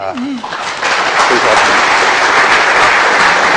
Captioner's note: applause